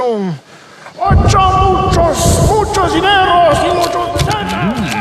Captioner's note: chanting